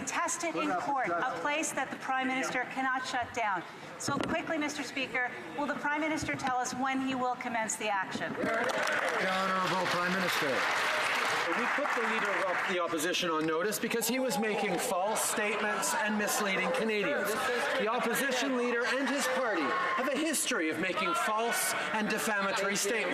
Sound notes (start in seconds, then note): 11.1 some Applause